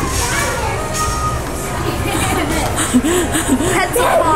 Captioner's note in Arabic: يضحك